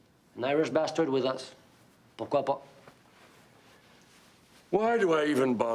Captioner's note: speaks in foreign language